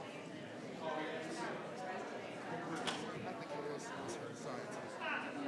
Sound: members chattering

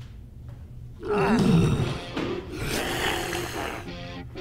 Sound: zombie groans

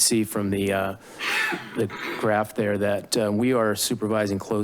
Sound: coughing in background

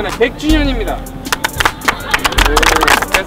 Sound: claps

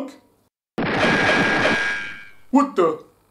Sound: gunshots, bullets ricochet

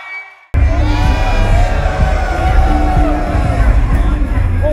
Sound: audience cheering; muffled pop music

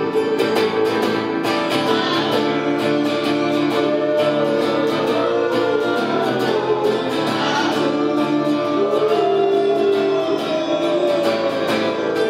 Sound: additional howling

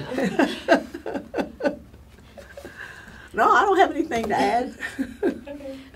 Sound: laughs

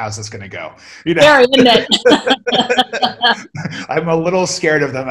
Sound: laughter

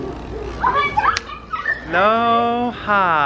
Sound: slap

